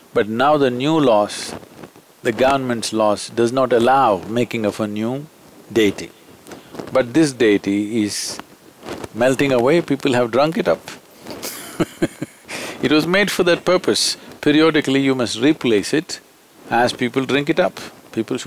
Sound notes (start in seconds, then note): 11.4 laughs